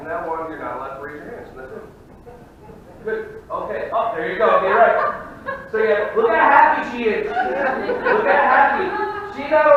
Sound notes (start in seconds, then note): 1.0 audience murmuring; 4.7 woman laughing; 7.1 audience laughing